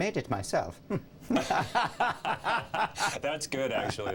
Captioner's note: both Laughing